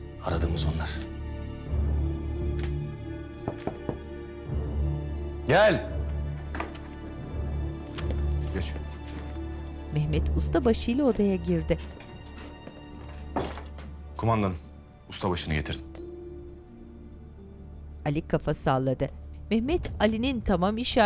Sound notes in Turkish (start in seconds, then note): 3.3 Kapı vurma sesi; 6.4 Kapı açılma sesi